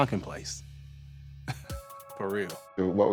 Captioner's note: chuckles